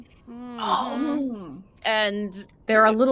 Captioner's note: all gasp